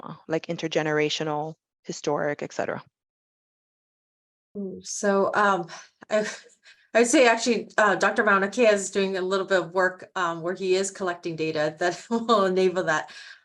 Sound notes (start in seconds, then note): 5.4 chuckling